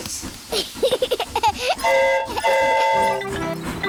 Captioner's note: giggles; train horn toots